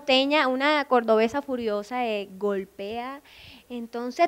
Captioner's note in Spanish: con acento